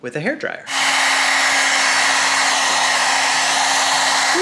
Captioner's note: hairdryer blowing